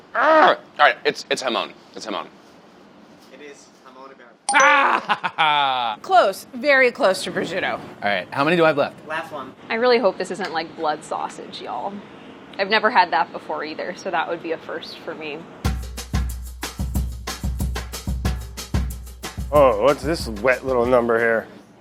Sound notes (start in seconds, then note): 4.5 dinging; 4.6 laughing; 15.7 upbeat music